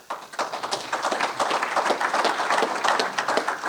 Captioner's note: audience applauds